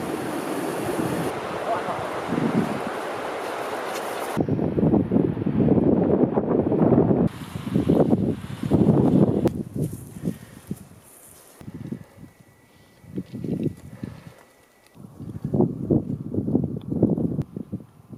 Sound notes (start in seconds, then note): 4.5 wind blowing; 9.6 footsteps